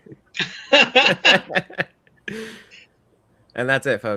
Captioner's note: all laughing